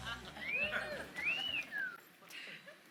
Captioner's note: adoring fan whistle